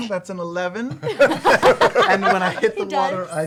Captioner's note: laughter